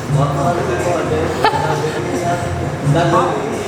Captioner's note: laughing